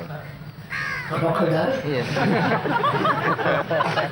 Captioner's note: laughter